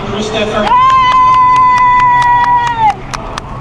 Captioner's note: cheering